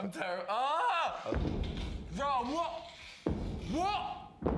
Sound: screams; thudding; banging intensifies

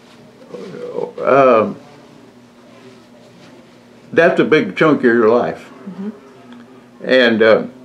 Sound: laughs

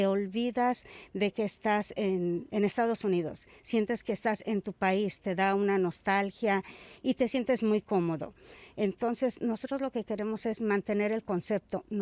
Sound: speaking spanish

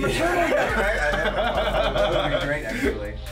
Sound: laugh

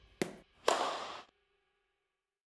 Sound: ball bouncing; racket whacking

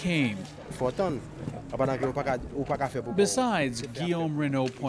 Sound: foreign dialogue

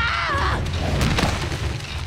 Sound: crashing

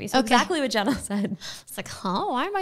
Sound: laughing

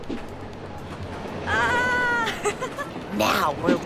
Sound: heart hero yelling

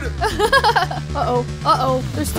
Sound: laughing

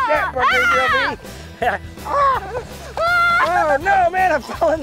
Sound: both yelling

